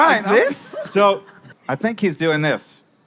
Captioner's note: laughing